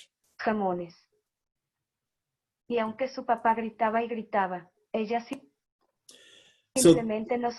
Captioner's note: foreign Language